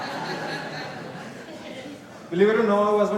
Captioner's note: laughter